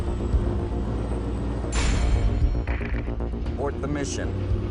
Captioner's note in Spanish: Sonido del camión